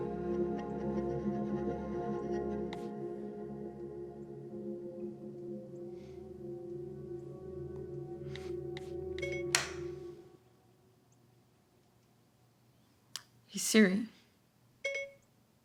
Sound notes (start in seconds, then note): 9.2 phone beeping; 9.2 lights clicking; 14.8 phone beeping